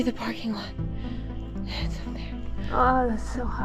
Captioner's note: whispers